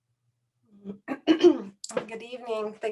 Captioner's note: clears throat